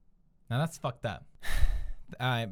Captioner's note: sighs